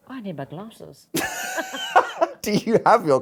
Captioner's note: both laughing